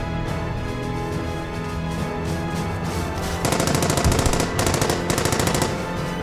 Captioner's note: dramatic music continues; weapons firing repeatedly